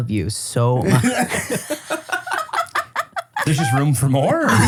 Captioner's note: everybody laughs